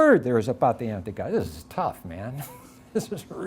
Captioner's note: chuckling